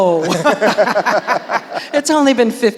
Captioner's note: laughing